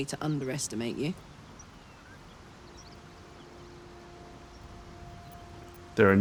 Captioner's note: silence